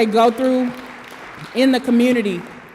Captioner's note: audience applause